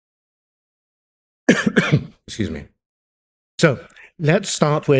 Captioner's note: coughs